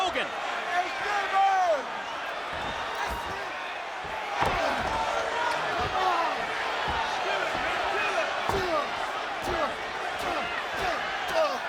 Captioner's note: applause